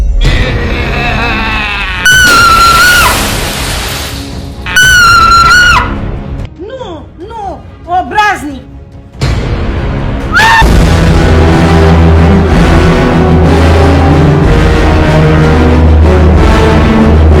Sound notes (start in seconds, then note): 0.8 blood-curdling scream; 4.6 blood-curdling scream x2